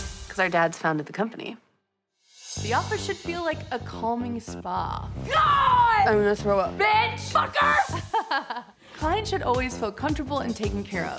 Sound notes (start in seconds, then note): 5.2 yells; 7.4 laughs